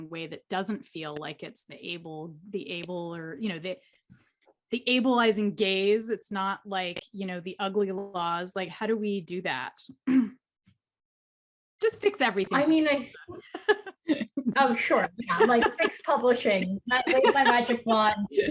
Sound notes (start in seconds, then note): 15.1 laughs